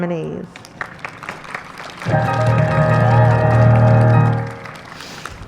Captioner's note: applause